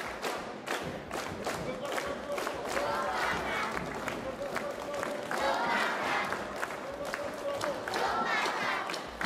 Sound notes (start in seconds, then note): 2.5 children chanting in foreign language